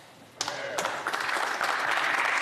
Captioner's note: speaking French